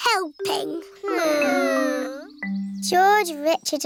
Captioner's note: whining